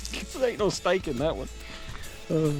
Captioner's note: laughing